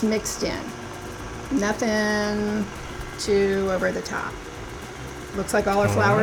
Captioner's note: mixer whirring